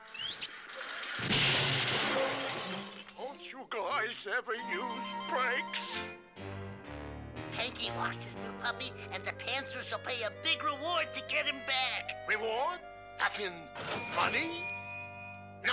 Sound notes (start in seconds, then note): 0.4 crashes